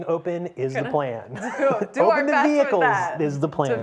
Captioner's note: laughs